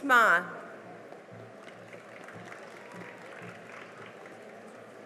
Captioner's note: cheering and applause